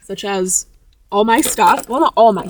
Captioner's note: trinkets rattling